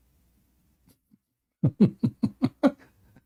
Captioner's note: Ketawa